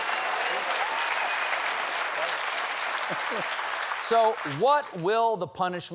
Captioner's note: applause